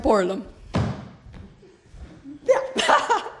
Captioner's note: stomps foot; laughs